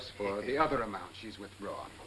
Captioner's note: none